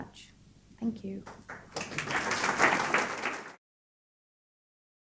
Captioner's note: applause